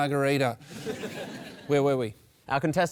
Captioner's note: laughter